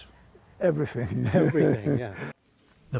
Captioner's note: laughter